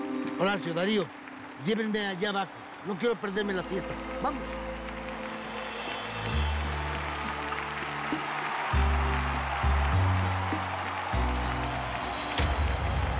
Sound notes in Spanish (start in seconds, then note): 6.2 aclamaciones; 6.2 aplausos